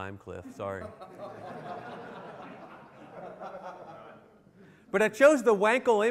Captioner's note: laughter